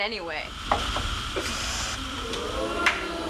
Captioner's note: plant hissing; audience oohing